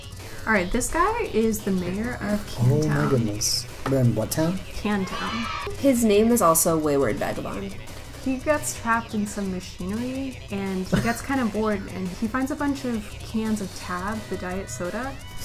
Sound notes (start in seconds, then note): 5.0 kids cheering; 10.8 laughs; 14.7 laughs